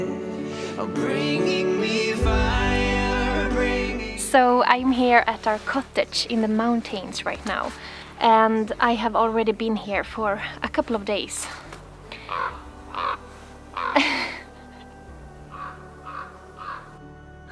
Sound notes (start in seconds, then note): 12.9 crow Caws; 13.8 laughs; 16.5 distant Caw